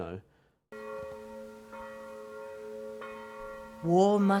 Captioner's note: bells tolling